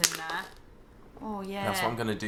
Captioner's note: can crushing